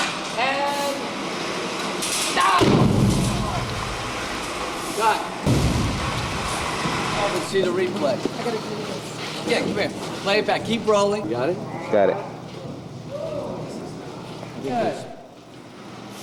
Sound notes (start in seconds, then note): 5.4 explosion